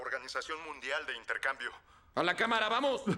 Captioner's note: voiceover